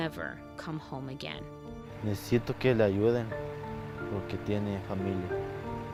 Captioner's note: speaking in foreign language